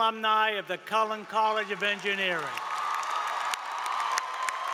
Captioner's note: applause